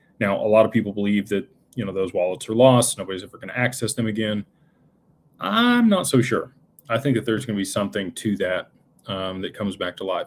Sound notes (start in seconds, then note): none